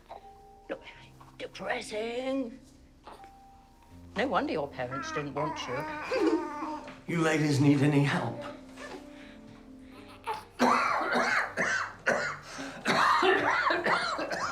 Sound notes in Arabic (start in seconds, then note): 5.0 ضحكة مكتومة; 10.3 السعال